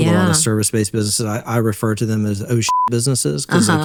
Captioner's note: beep